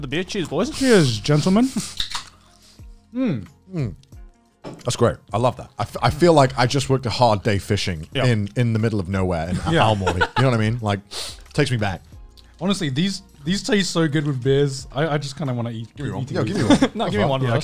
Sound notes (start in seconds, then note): 1.8 can opening